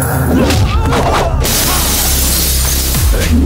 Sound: glass shatters

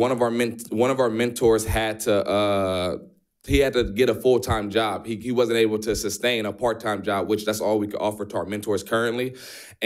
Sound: none

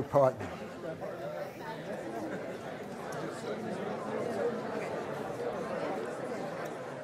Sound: audience talking to each other

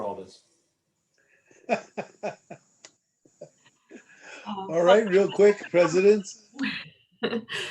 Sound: laughter; laughter

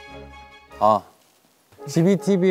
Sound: exclamation

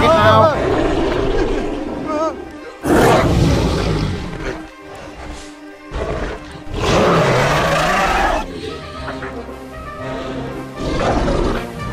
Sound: moaning and Carnotaurus Growling Sounds

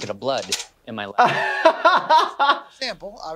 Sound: laughs

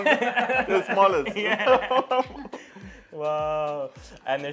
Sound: laughs

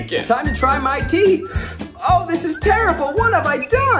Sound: slurping

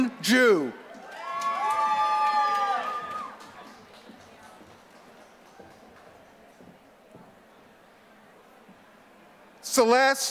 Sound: applause

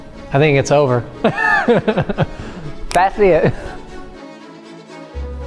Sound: laughs

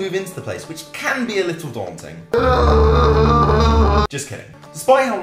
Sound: terrified screaming

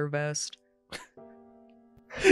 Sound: chuckles

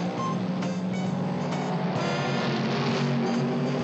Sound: engine roaring

